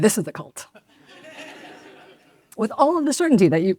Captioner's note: audience laughs